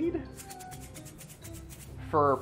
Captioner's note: mustard seeds rattling